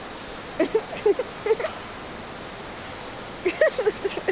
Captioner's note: laughs